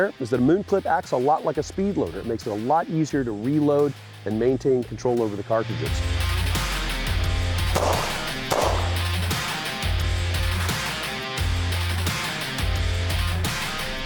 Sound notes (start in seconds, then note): 6.2 rock music; 7.7 gun shots